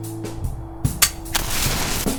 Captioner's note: click; gunpowder ignites